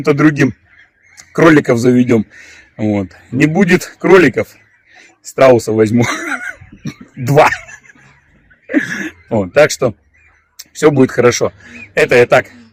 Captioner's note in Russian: смех